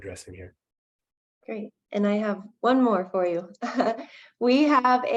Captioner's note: chuckling